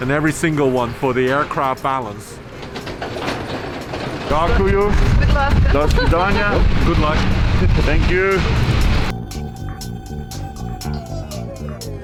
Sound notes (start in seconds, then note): 2.6 trailer rumbling; 4.4 wishing well in foreign language; 9.2 dramatic music